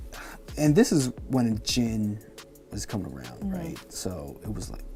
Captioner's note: sighs